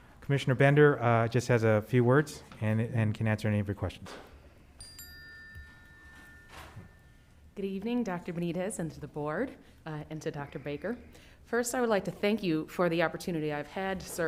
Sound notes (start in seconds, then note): none